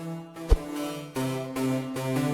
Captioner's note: woosh